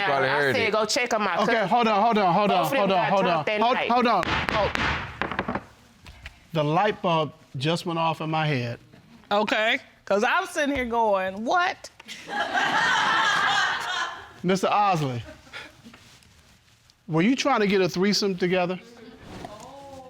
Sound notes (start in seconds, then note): 4.2 gavel banging; 12.2 audience laughing